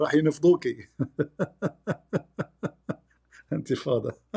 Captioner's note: Ketawa